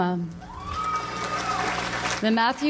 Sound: audience applauds

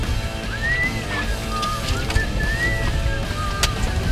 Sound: whistles

